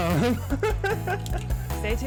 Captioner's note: laughs